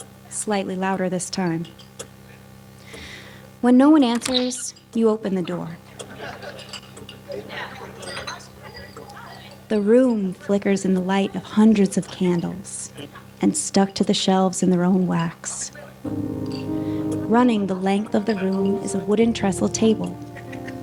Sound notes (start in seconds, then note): 4.1 door opening; 6.0 silverware clanking